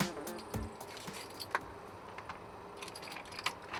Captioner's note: keys jingling